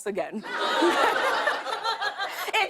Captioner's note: laughter